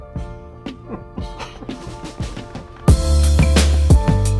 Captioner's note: chuckling; upbeat music